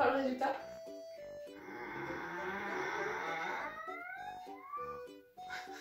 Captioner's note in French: Bruit de porte qui grince; Petit rire